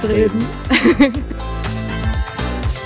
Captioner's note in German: Lacher